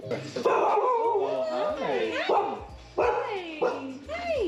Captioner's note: barking